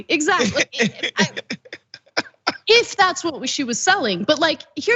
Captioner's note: laugh